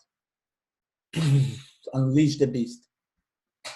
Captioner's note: mimics explosion